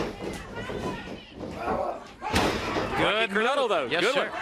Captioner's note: crowd chatter